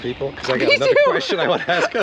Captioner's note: laughing